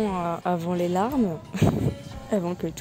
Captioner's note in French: rire